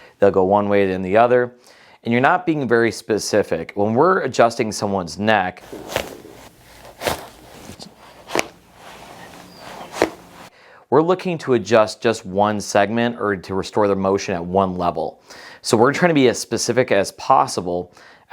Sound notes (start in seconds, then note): 5.6 neck clicking